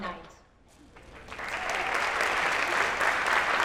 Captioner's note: applause